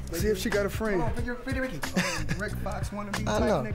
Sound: chuckling lightly

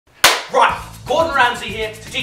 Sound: clap

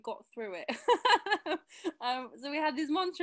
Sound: chuckles

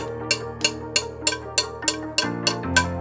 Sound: tapping sound

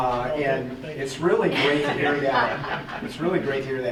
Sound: group laughing

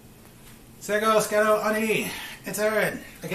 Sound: speaking Mohawk

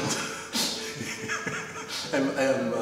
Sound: laughs

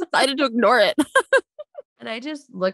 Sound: both laugh

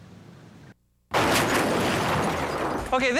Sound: crashing sound

